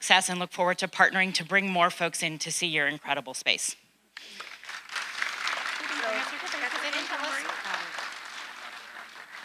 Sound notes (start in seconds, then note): 4.2 audience applauding